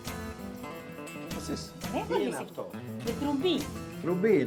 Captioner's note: speaks foreign language